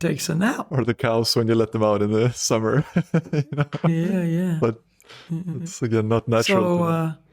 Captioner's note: laughs